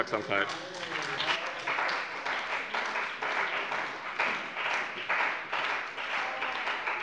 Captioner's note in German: Beifall bei dem BÜNDNIS 90/DIE GRÜNEN und der CDU - Zuruf von der LINKEN